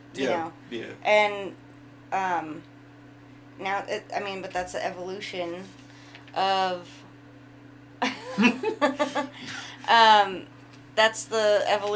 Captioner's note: laughing